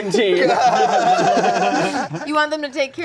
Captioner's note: everyone laughing